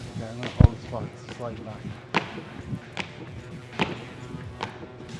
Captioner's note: Sheamus speaks faintly